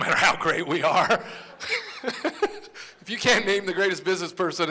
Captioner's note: laughter